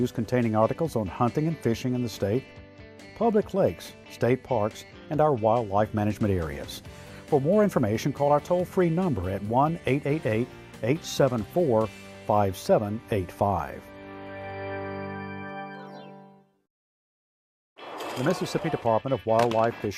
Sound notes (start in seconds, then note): none